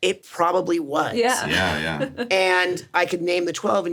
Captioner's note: laughs